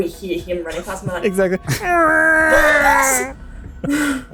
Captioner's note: echoing scream